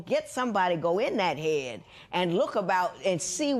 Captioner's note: none